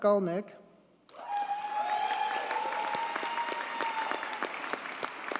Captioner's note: audience cheers and applauds